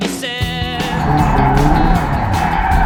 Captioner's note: car revving